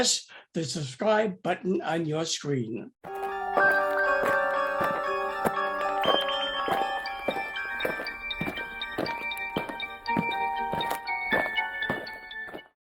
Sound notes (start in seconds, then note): 3.0 eerie music; 8.1 aliens marching